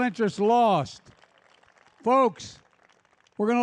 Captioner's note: applause